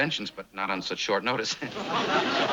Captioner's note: laughs nervously